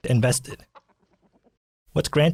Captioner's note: chicken sounds